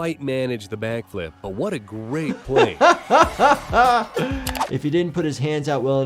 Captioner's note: laughs